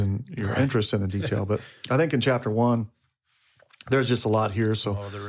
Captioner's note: chuckles